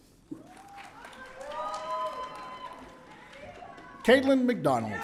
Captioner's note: audience cheering